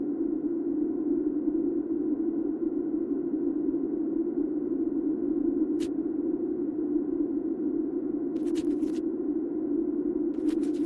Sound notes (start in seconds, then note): 8.5 indistinct crinkling